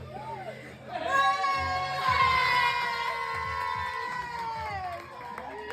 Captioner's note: people cheering and clapping